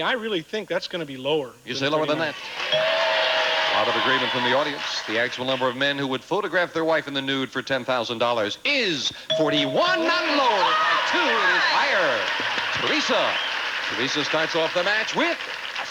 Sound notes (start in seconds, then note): 11.7 audience applauding